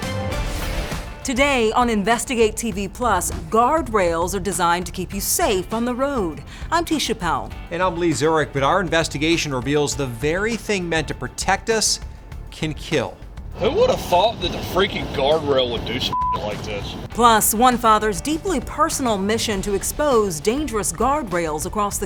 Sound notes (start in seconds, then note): 15.8 beeps